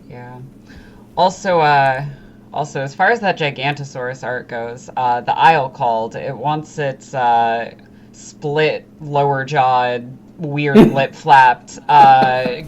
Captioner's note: laughs